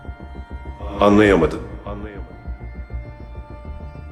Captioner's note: unknown Echo; echoing